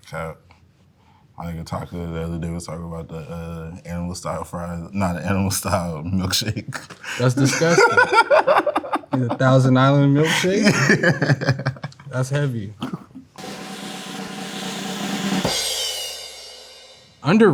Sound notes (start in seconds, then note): 6.4 laughs; 13.3 cymbals crash; 13.3 drum rolls